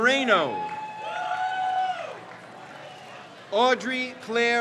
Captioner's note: crowd cheers